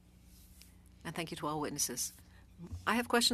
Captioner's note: speaking French